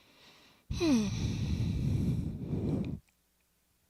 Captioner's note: sighs